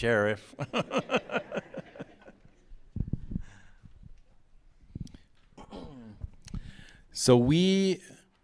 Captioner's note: laughter